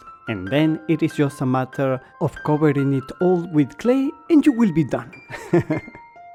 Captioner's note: laughter